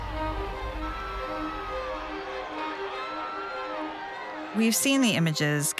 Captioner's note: rioters yelling